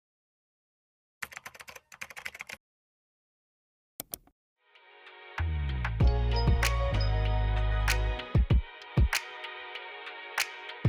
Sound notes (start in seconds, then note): 1.2 keyboard typing; 4.6 calm music